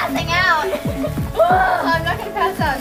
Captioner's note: girls giggling